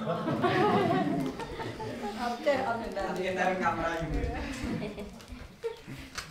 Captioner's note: chattering